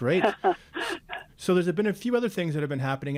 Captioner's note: laughing